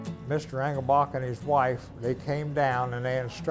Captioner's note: water running